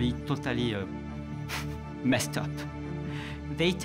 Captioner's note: chuckles